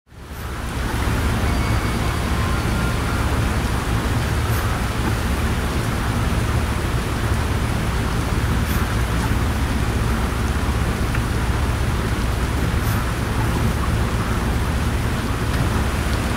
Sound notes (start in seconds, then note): 0.0 relaxing white noise fades in; 1.2 gentle alert chime; 6.0 relaxing white noise rain sounds continue